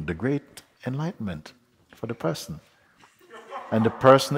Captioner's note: laughter